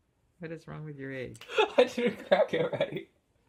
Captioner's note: laughs